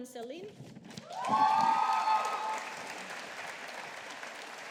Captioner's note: audience applauding